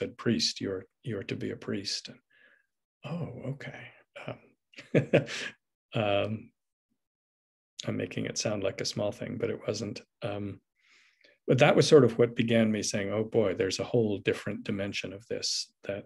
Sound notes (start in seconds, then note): 4.8 laughs